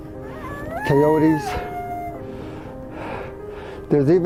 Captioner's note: coyotes aullando